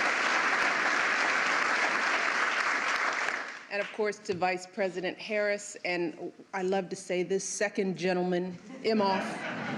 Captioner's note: applause